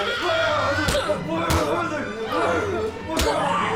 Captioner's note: Abby screams; intruder yells and punches